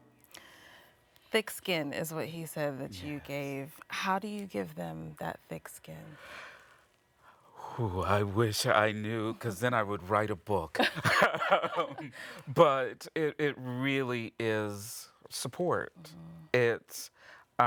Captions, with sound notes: - Thick skin is what he said that you gave. How do you give them that thick skin? - Ooh, I wish I knew, 'cause then I would write a book. [laughing] But it really is support.